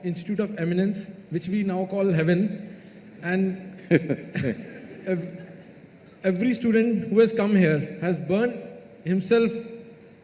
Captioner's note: Sadhguru Laughs